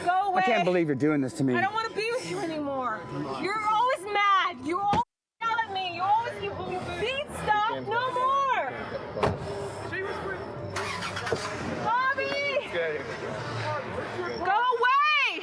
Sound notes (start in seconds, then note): 10.6 engine starts